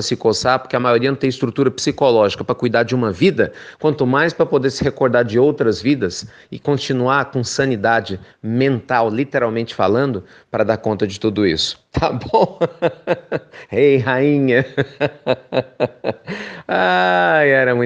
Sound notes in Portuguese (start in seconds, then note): 14.5 risos